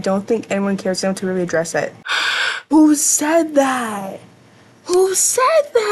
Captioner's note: loud gasp